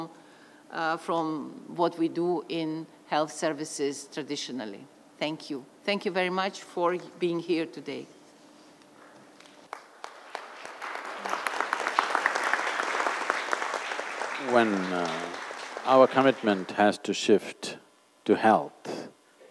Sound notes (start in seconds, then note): 8.6 applause